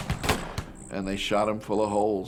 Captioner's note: multiple gun shots